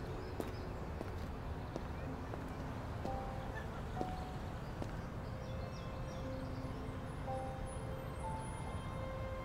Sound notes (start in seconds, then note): 2.4 birds chirping